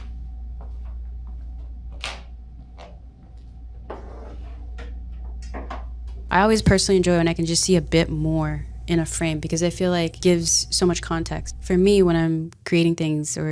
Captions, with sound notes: (floorboard creaking) (object scratching) I always personally enjoy when I can just see a bit more in a frame because I feel like gives so much context. For me, when I'm creating things